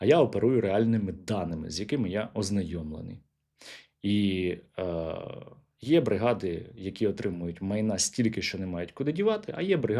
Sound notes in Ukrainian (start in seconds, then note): 4.3 сопіння